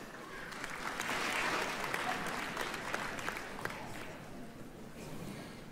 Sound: applause

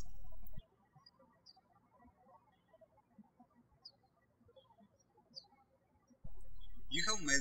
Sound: birds chirping

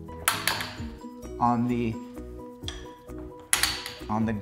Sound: carrier locking; carrier locking

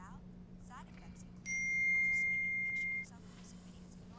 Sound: ding

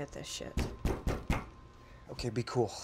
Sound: loud knocking

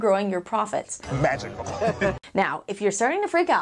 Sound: chuckling

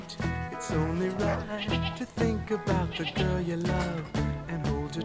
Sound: goat bleats

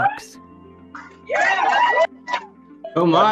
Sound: cheering

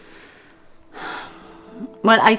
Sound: sighs

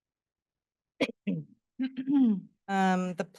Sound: clears throat

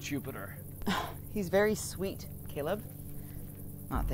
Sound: scoffs

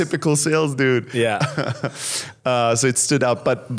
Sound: chuckles

